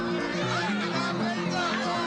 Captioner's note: crowd talking indistinctly